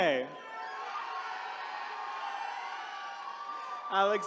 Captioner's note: attendees cheering